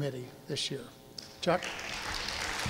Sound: audience applauding

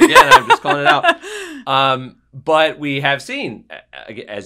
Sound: laugh

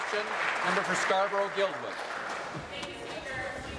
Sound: applause

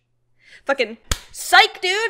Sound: claps

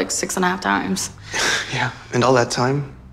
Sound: scoffs

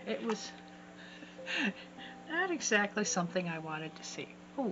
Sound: chuckle

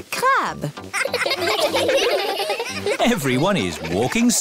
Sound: laughing

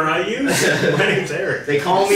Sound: laughing

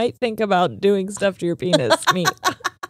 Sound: laughing

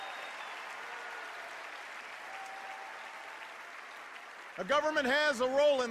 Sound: cheers and applause

